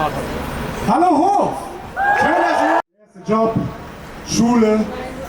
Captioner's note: cheers